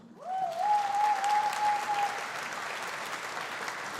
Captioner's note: audience applauding